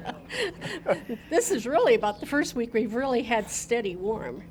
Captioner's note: laughing